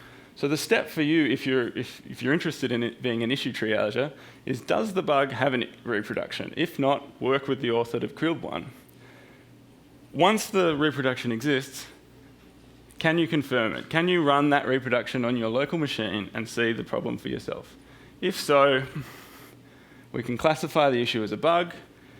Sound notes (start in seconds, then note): 8.4 stammers